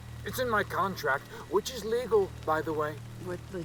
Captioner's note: none